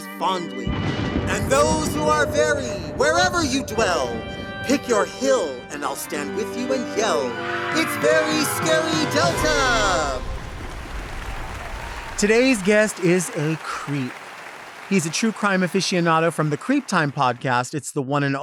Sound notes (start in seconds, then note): 10.3 audience applauds